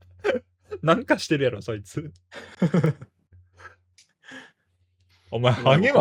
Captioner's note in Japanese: 笑い